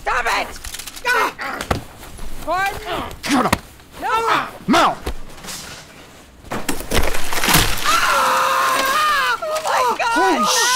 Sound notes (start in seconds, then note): 5.9 clangings and crashings; 7.8 screams